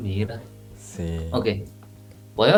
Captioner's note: Spanish